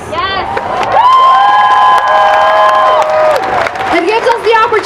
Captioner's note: cheering